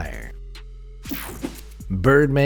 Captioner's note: air whooshing